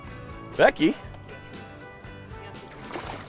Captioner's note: voiceover